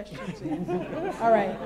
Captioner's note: laughter